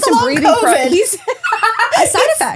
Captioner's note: laughing